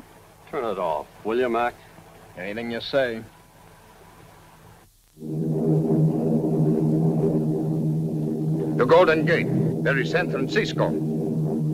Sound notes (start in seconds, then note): 5.2 plane engines roaring